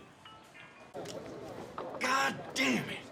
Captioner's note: group chattering